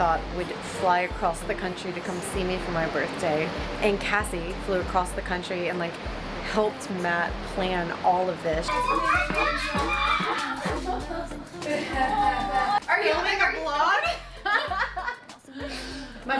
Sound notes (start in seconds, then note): 8.6 joyful screaming; 14.0 laughing